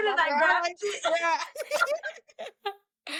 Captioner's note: both laughing